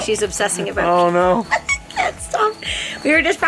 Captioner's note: laughing